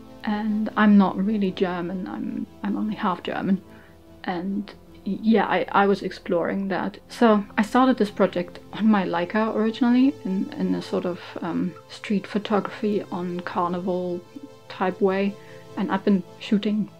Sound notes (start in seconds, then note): none